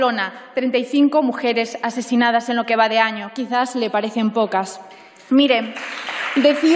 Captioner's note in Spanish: Aplausos